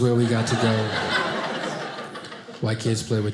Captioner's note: audience laughing